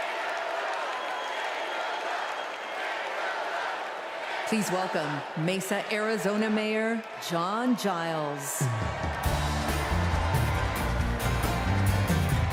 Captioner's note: cheers and applause